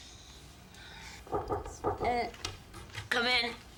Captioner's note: knocking